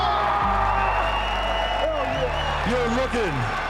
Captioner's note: audience cheering